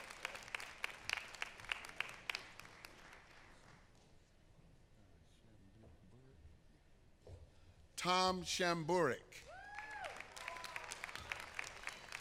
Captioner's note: applause